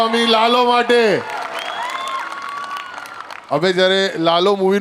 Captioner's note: crowd applauding